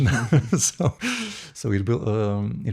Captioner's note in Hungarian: nevetés